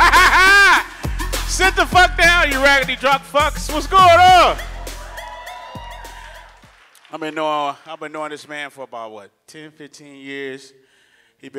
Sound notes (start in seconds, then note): 3.8 audience cheers